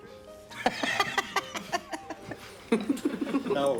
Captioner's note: laughs